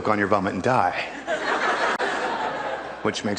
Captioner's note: crowd laughs